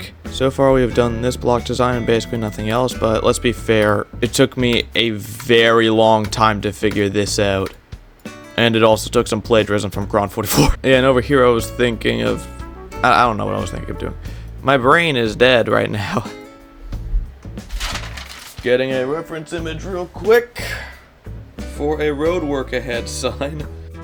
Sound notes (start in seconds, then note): 17.5 papaer noises for some reason